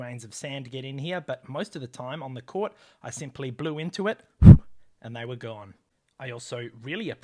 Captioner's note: blow